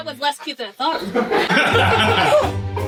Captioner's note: laughing